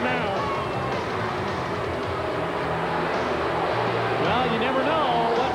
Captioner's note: crowd yelling